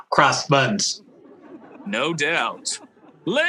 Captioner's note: audience laughing